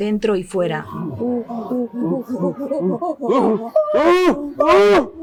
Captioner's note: make chimpanzee sounds